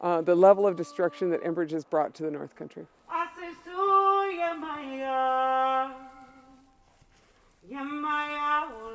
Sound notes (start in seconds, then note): 3.4 reciting prayer in a foreign language